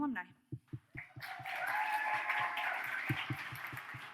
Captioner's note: audience cheers